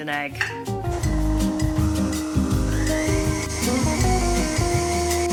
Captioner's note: stand mixer whirs